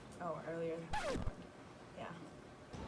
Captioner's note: record scratch